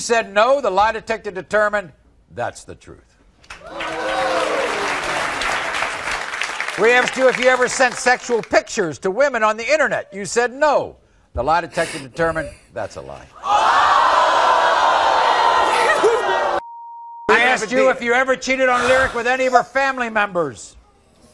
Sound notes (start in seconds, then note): 3.5 audience applauding; 13.1 audience gasping